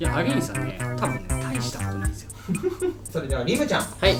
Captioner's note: laughs